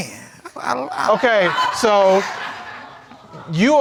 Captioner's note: audience laughing